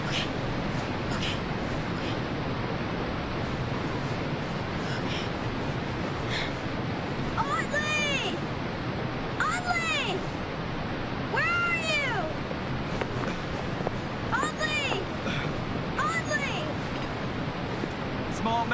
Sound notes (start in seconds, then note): 15.1 gasping